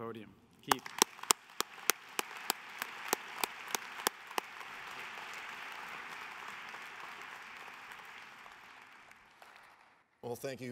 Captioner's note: applause